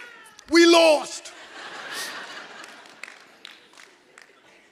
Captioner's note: audience laughs